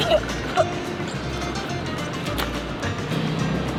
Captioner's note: coughing